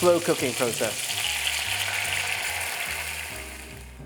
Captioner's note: sizzling sound